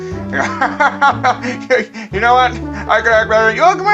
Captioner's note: laugh